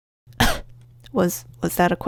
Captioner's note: cough